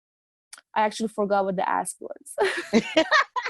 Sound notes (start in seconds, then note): 2.4 laughing